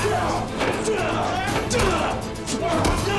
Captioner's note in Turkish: Darp sesleri